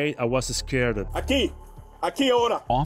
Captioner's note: speaking in foreign language